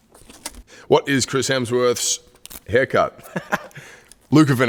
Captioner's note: laughs